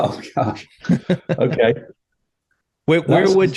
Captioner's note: speakers laughing